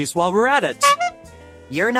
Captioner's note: honk sound